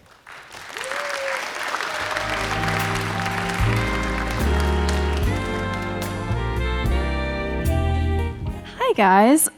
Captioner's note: applause & Music